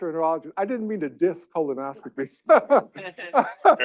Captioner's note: laughs